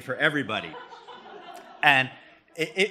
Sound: laughter

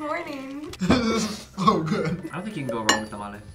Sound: laughs

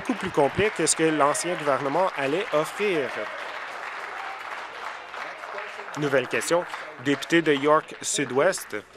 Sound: applause

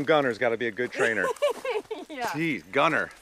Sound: Lindsey laughs

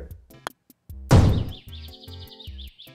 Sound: cannon fires

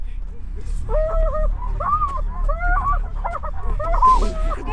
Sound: woman crying out

